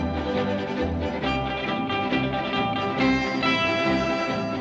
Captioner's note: none